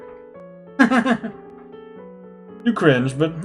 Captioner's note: laughs